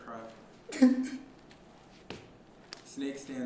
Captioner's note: crying